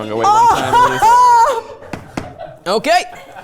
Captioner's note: laughing